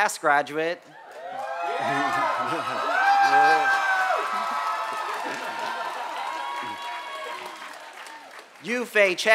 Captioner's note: applause and cheers